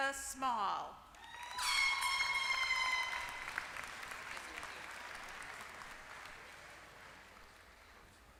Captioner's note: applause